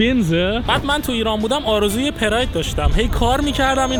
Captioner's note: car